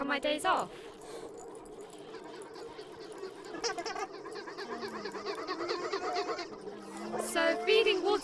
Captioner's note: terrifying but also adorable sqeaky panting and drawn out wahhhs of alien geese